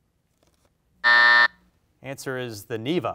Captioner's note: alarm buzzes